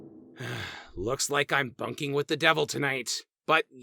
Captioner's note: sigh